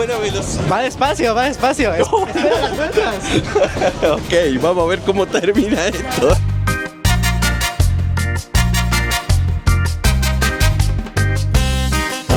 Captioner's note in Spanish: risas